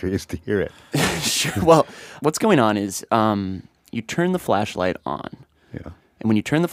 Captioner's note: laughs